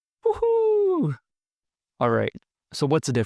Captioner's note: happy sounds; _Happier sounds_